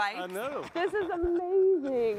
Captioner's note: chuckles